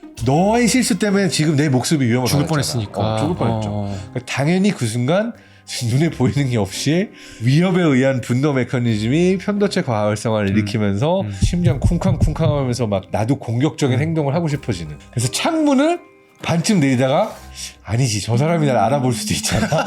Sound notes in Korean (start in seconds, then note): 11.4 심장 박동 효과음; 19.4 웃음